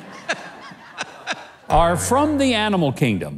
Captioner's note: audience laughs